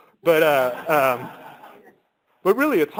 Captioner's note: laughter